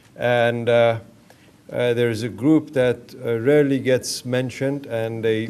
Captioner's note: none